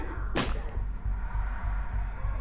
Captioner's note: object smacking; tense eerie music